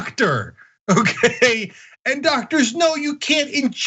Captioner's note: laugh